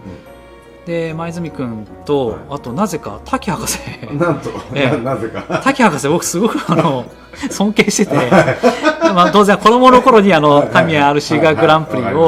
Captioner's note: laughs